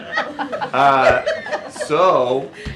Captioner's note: laughter